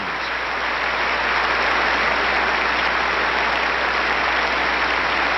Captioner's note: applause